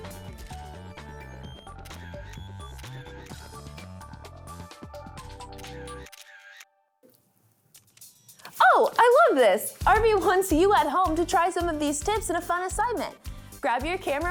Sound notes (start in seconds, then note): 2.0 gentle music; 6.0 camera clicks